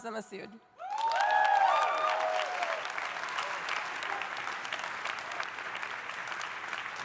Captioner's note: audience cheering; audience applauding